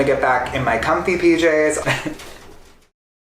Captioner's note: laughs